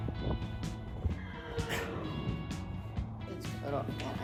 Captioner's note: horse whinnies loudly